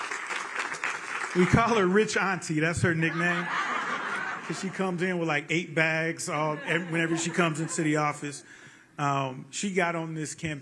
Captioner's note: cheering